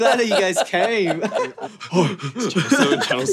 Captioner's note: laughter